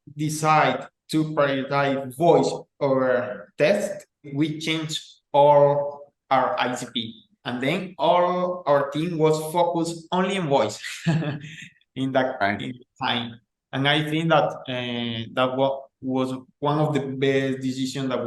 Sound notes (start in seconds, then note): 10.8 laughing